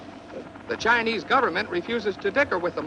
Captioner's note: man On Radio